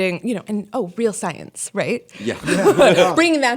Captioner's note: laughter